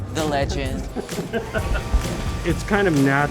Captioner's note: laughing